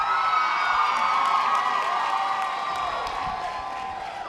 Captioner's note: audience applause